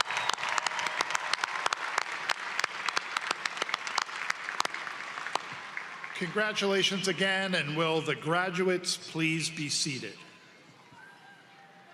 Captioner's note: applause